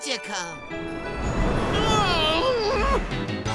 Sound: groaning

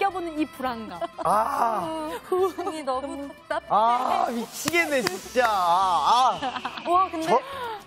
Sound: sighing to myself in the past The production crew loves so much

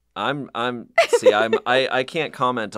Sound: laughs

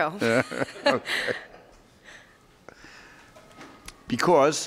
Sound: laughing

